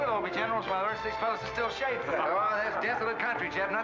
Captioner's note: men laugh